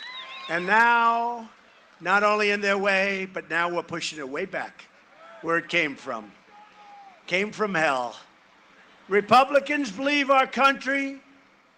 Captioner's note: cheering and applause